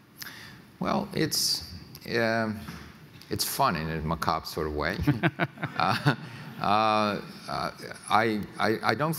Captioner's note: chuckles